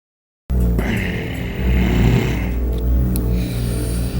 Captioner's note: grunt